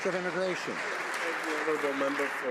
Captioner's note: some Applause